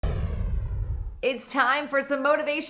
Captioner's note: air whooshing